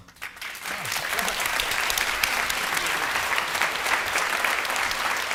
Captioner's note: audience applauding